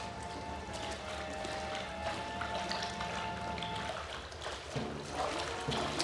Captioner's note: footsteps Splashing